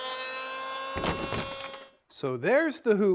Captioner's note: planer whirring; wood falling